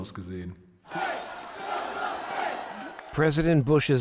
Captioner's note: crowd cheering